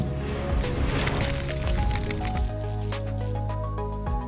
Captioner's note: objects rustle